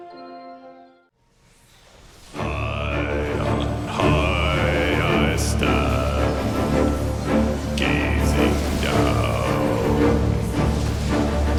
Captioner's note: urging chant